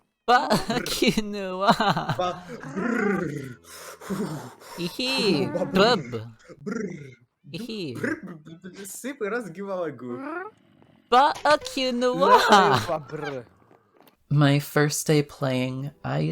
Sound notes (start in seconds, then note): 0.2 sobs in furry; 7.5 Angry Russian noises